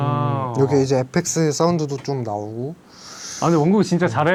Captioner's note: sound effects